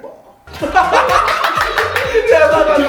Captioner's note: laughs